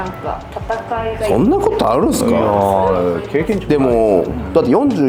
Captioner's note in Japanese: うめき声